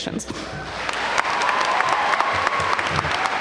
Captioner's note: applause